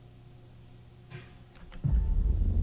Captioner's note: object clicks; rattles; audio static